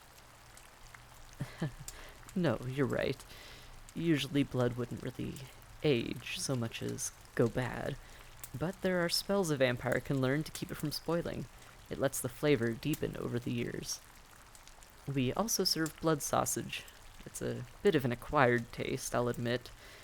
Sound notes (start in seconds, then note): 1.4 laugh